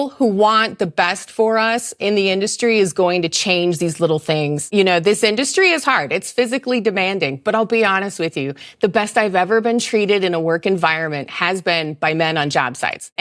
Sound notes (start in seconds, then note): none